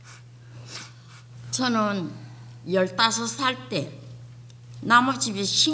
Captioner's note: speaking foreign language